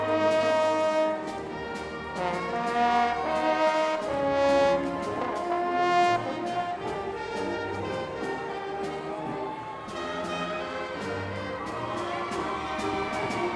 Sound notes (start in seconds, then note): 7.3 crowd applauding